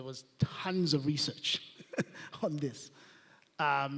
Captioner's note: laughs